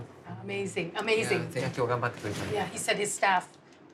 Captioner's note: speaking Japanese